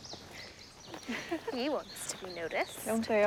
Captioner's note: giggling